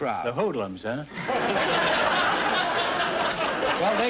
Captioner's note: audience laughter